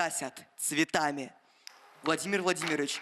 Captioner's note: applause